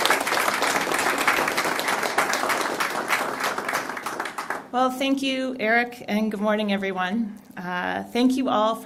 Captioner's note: applause